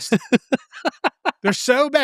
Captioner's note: laughing